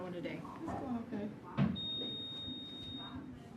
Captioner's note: beeping